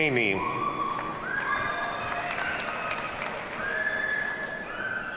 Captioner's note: audience cheers and applauds